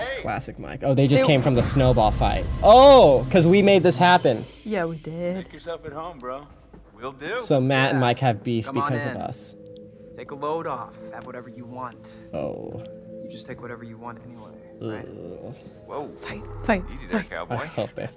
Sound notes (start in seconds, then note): 12.6 groans